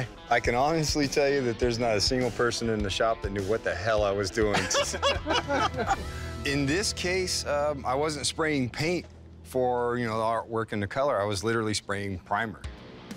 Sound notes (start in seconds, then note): 4.4 laughter